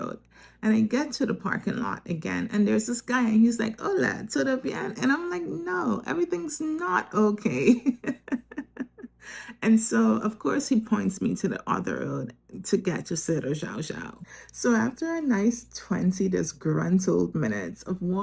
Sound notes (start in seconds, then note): 7.6 laughter